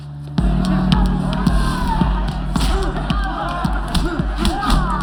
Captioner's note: fighting, cheering